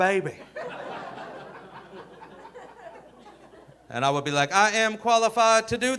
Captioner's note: audience laughing